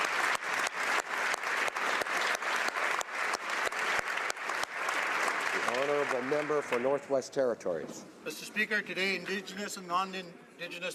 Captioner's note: applause